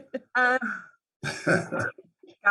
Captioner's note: laughs